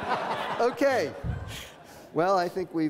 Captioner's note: audience laughs